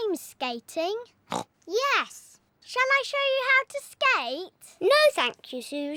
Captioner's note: snorts